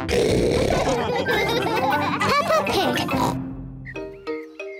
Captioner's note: oink; all laugh; oinks